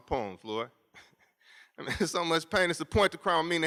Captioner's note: laughs